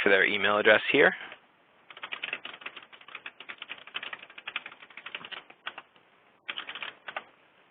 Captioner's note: typing